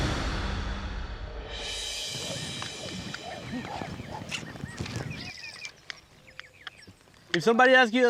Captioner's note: horse neighs; birds chirping